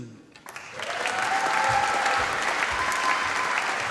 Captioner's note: applause